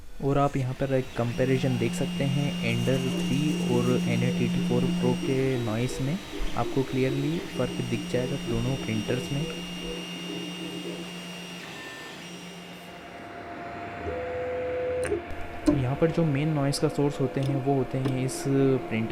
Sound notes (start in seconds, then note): 0.3 Ender 3 Noise; 15.3 Anet ET4 Pro Noise